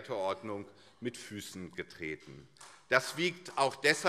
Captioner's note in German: Beifall